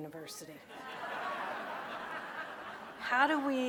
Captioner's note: audience laughing